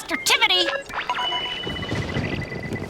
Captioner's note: beeping